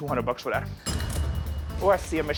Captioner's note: cash register dings